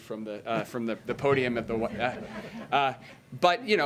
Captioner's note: laughter